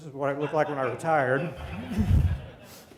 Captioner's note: laughter